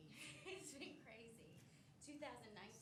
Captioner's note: giggles